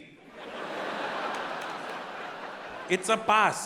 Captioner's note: audience laughing